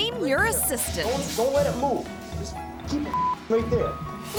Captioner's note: beep